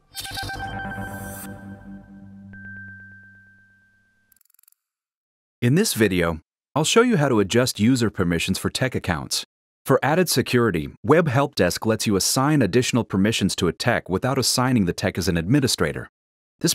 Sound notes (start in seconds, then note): 1.5 cheery jingle; 4.3 clicking